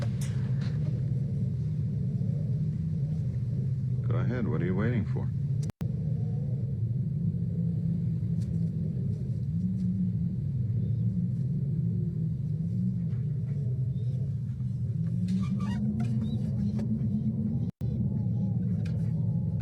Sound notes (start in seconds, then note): 0.2 wind Blowing; 5.2 wind Blowing; 15.3 dog Whining; 19.2 wind Blowing